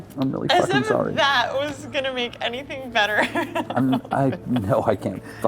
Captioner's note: laughs